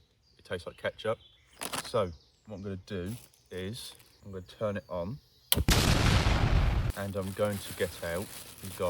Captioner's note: explosion